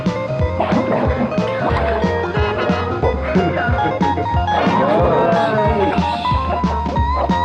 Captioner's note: upbeat rock music; punch gurgling